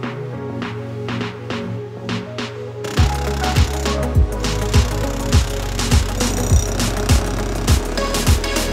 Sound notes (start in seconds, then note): 2.8 drilling